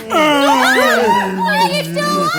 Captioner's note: gasp